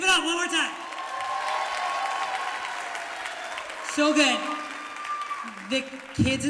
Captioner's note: cheers and applause